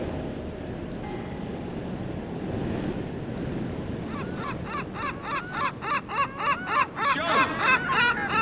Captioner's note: sea Gulls